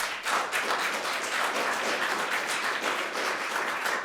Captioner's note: audience applauding